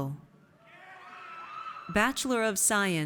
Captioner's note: audience cheers